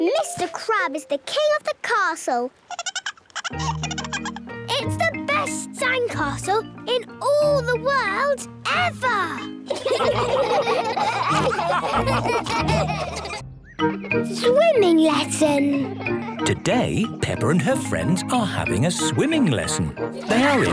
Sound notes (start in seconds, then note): 2.7 giggling; 9.6 all laughing